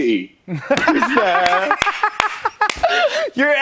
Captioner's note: laughs